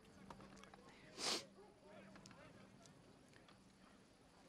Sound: sniffs

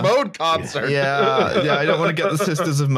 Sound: laughs

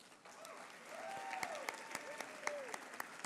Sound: applause

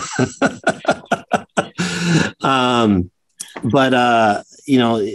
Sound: laugh

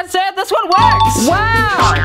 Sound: dinging; boing

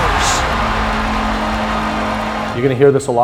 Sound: crowd cheering

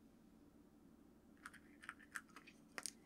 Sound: bottle cap closing

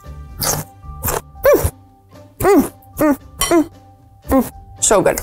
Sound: moaning

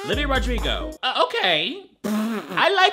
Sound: laughing

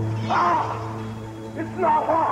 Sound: Hogan yells

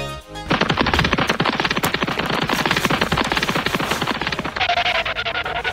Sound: roadrunner running

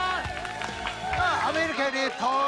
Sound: cheers and applause; people speaking Japanese

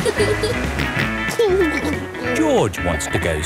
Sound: snorts and giggles

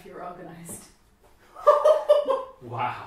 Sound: laughter

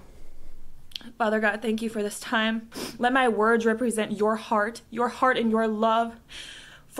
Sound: sniffs

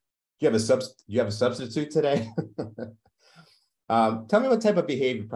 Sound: chuckles

